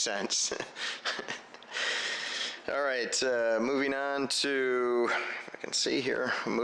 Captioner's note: chuckles